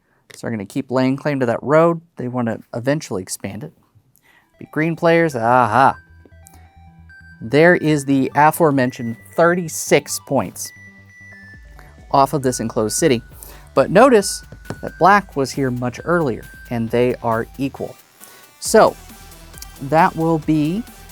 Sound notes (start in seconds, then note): 5.8 new song begins; 14.6 taps table